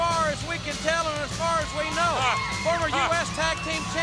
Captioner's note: laughs